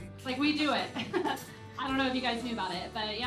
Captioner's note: laughing